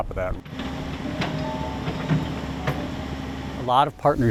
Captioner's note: machine sounds